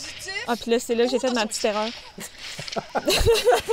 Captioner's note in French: rires